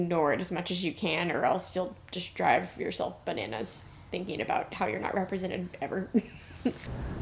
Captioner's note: chuckling